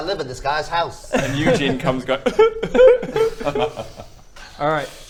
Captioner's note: cry.wav